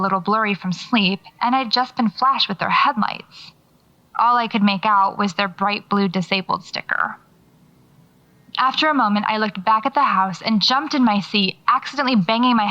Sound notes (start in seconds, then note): none